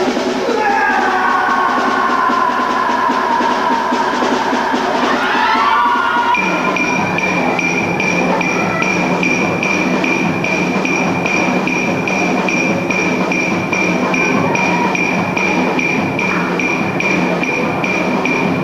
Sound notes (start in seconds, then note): 0.5 reciter cries; 4.9 villagers cry and run in a panic